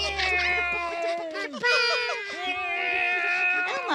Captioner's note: children play